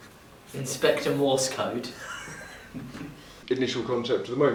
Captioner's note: laughs